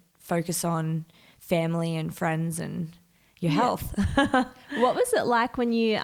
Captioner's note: chuckles